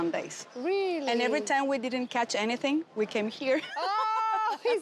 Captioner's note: laughs